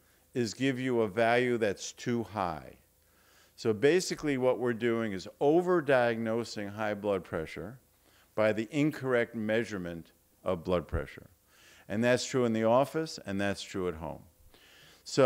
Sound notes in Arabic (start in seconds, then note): none